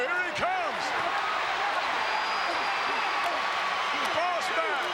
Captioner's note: crowd cheers